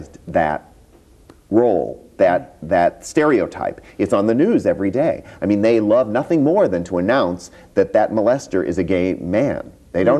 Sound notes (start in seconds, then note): none